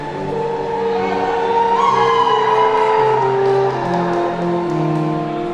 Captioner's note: attendees whooping